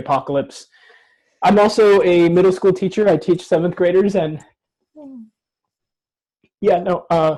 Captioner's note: chokes up